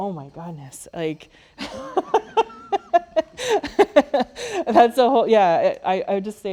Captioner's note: laughs